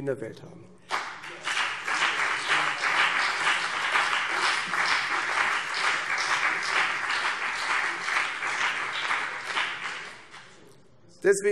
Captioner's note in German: Beifall CDU und BÜNDNIS 90/DIE GRÜNEN